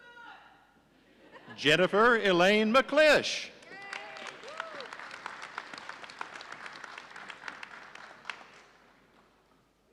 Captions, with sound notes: Jennifer Elaine McClish. (audience applauding)